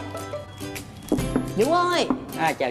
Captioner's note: knock